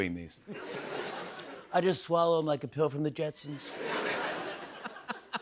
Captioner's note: As Trump